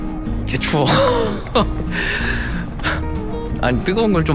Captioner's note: laughs